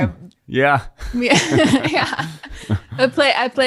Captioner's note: both laughing